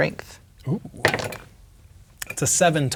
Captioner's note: dice rolling